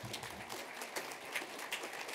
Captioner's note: applause